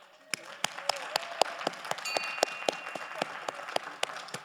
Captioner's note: audience applauds